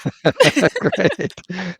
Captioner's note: laughter